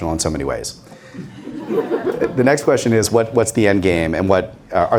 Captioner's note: laughter